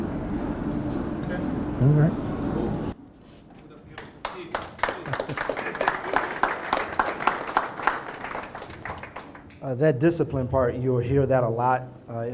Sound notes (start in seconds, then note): 3.9 applause